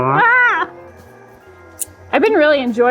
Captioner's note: vocalizes; shouts